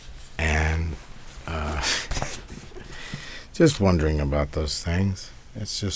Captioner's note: laughs